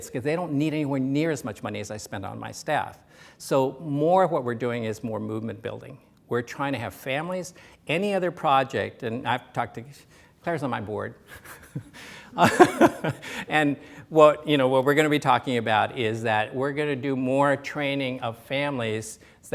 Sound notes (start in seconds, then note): 12.3 laughs